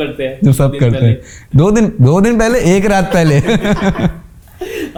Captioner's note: laughing